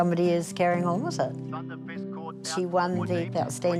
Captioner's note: race caller continues